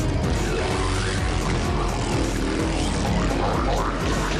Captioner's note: motorcycle